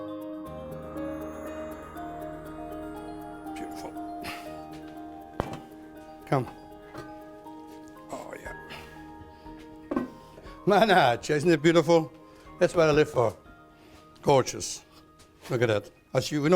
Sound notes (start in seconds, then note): 8.0 laughs